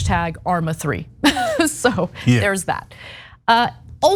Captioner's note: laugh